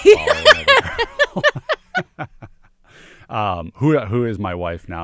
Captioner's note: laughter